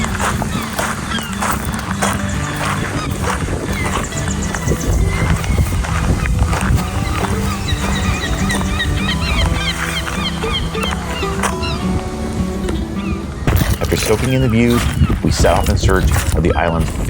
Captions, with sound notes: (sounds of seagulls) After soaking in the views, we set off in search of the island's